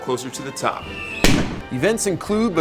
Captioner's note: firework exploding